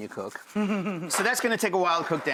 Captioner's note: laughing